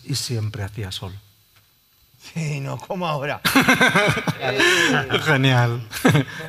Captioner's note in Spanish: risas